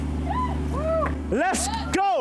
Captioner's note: crowd cheers